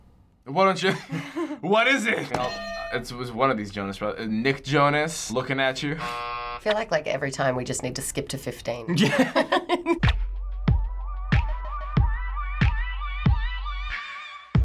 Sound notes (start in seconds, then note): 2.3 hitting bell; 6.0 buzzer; 8.9 laughing; 9.3 funky beat